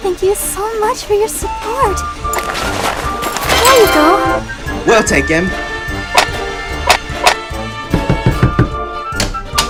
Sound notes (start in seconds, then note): 7.8 doot Knocking; 9.1 door opens